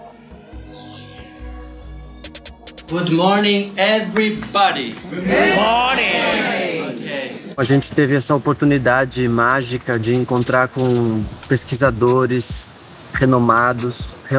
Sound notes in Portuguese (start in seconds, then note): 2.8 em inglês; 5.3 todos, em inglês